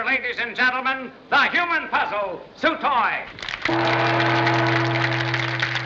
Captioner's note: gong Bangs